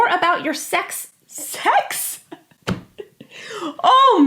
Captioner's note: laughs